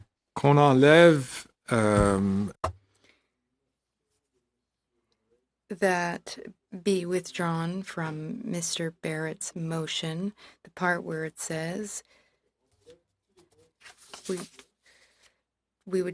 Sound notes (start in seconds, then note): 2.0 speaking French